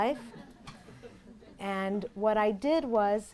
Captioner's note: audience laughs